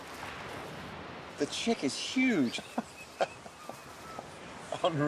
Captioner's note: laughs